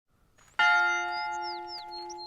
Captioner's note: birds chirping; bell